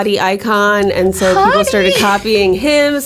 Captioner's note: laughs